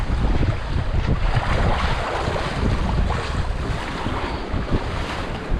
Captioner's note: water sound